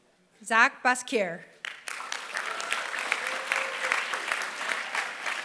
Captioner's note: applause